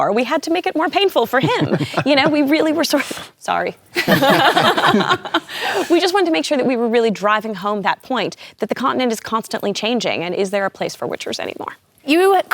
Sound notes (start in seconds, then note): 4.0 laughter